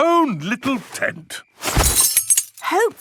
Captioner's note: clang-ruffle-thump